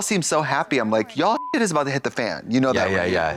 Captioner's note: beep